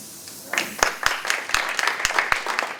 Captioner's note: applause